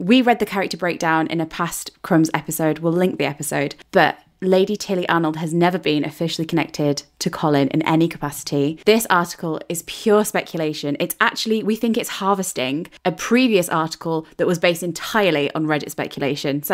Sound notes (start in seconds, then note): none